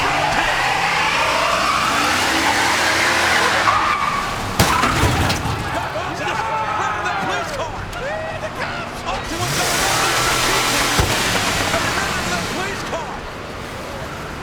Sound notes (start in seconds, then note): 0.1 truck engine roaring; 4.7 truck smashing